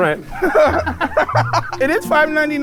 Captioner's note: laughing